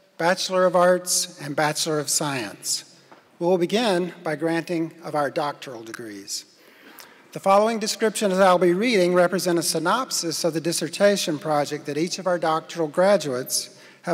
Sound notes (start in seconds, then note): none